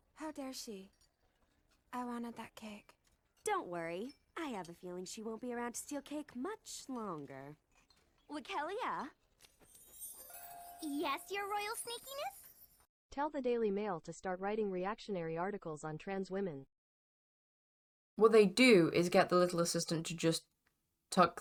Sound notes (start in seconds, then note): 13.1 TTS voice